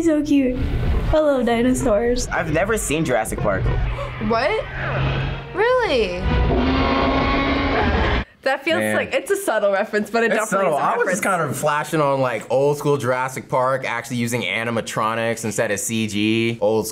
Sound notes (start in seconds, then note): 6.3 dinosaur roars